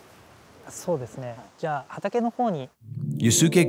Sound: speaking in Japanese

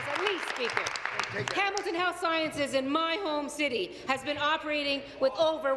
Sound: applause

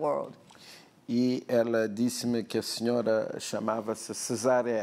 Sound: speaking portuguese

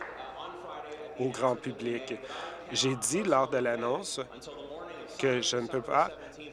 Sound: applause

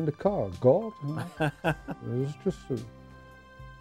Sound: laughing

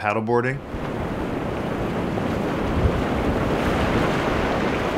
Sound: waves whooshing

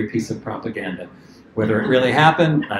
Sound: laughter

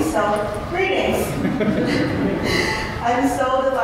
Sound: laughter

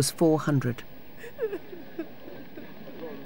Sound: crying

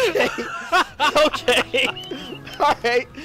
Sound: laughing

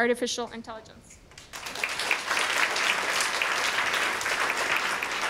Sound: audience applauding

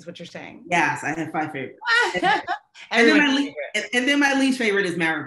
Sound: laughing

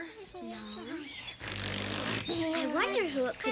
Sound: snore

